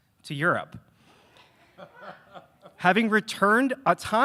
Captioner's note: laughing